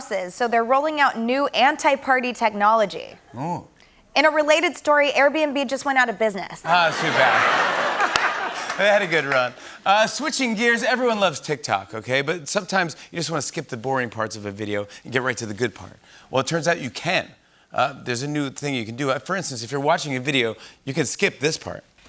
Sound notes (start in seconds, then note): 6.6 laughter